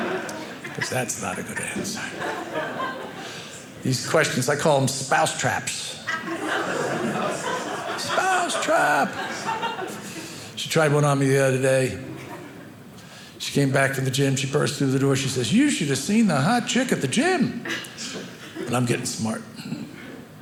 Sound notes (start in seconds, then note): 1.9 audience laughing; 6.0 audience laughing